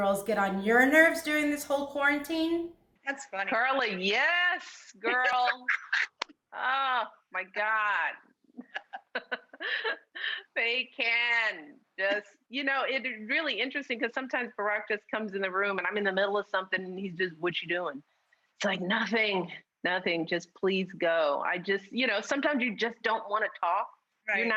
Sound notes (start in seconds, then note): 5.0 laughs